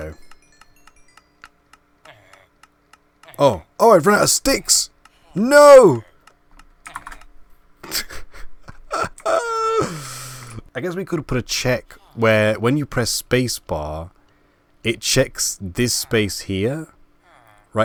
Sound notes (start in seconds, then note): 0.0 laugh; 7.8 laugh